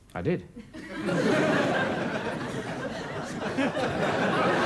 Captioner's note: audience laughs